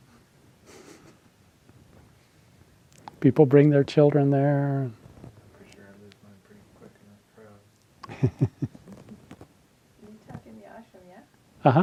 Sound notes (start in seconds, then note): 8.0 laughing